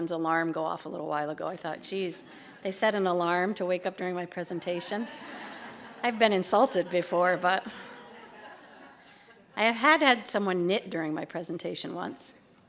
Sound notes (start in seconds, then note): 7.7 laughter